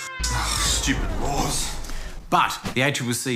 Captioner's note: sighs